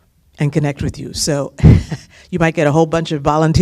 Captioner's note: laughter